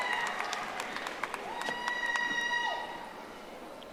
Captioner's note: audience applauding